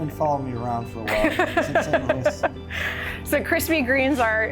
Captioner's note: laughs